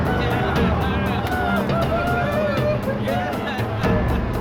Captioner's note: cheering